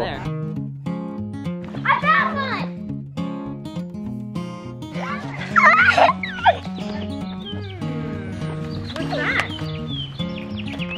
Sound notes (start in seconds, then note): 0.2 playful music plays; 3.4 playful music continues; 7.0 squealing